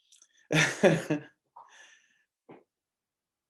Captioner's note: he laughs